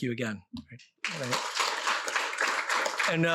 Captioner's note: applause